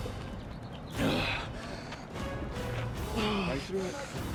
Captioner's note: gasping